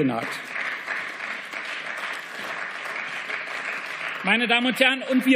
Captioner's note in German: Beifall